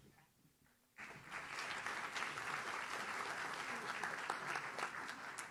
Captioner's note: audience claps